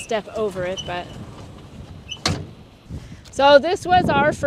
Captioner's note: door closing